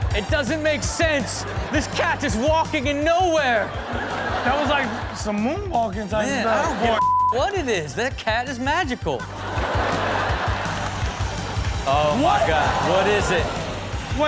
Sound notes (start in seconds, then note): 7.0 beep; 9.2 crowd laughing